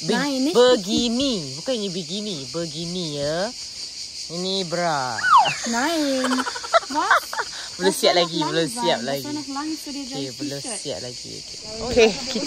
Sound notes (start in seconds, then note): 5.2 laugh; 9.9 speaking German